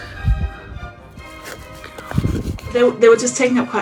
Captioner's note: paper scrapping